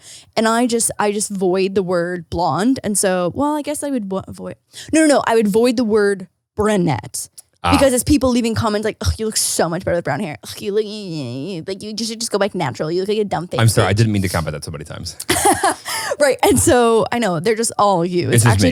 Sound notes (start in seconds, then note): 11.5 whining; 15.2 laughing